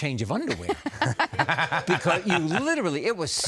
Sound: laughter

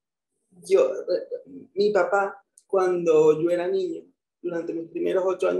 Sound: speaking in foreign language

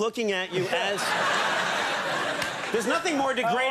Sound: audience laughing

